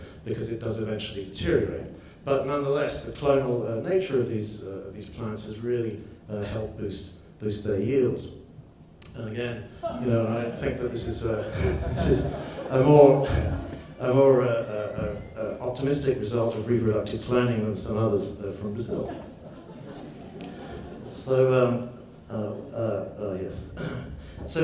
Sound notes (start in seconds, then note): 9.7 audience laughs; 9.8 laughs